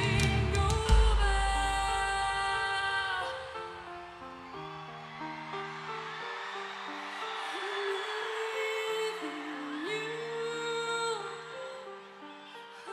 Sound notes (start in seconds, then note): 4.0 audience cheering; 4.0 gentle music